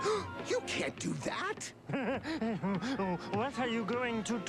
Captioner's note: gasps